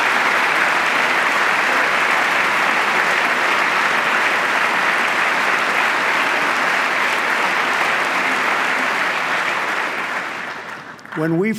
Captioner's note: applause